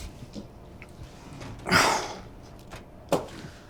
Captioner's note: Colin grunts